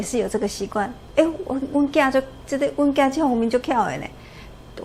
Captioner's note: spoke in Taiwanese